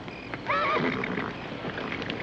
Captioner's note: horse neighing